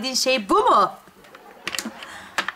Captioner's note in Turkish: Gülme efekti